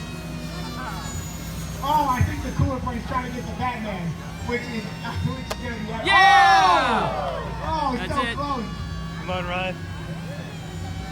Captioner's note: crowd